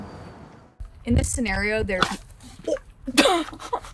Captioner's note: pig chomping; laughing